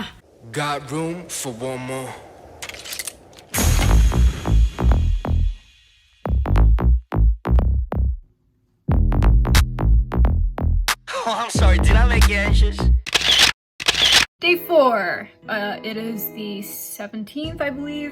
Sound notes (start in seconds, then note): 2.6 glocking sound; 13.8 camera shutters